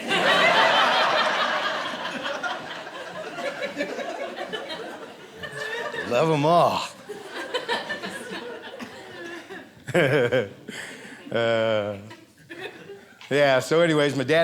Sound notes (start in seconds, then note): 0.1 audience laughing; 9.7 laughing